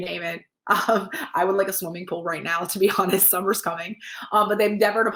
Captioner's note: laugh